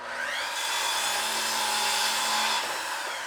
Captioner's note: whirring